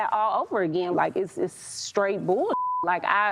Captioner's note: beep